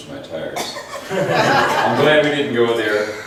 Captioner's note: laughs